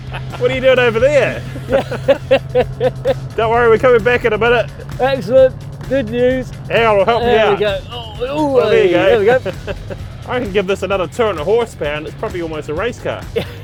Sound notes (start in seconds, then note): 0.0 laughs